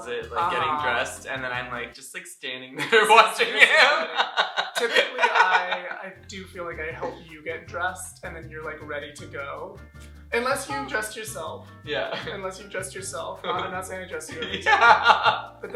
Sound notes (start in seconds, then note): 2.8 laughter